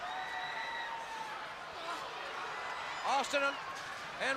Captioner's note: crowd chatter